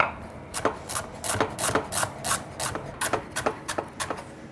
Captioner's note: knife tapping